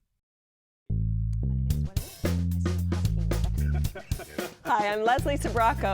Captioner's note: laughs